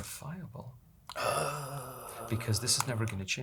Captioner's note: gasps